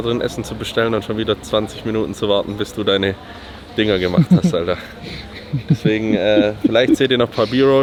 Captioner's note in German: gelächter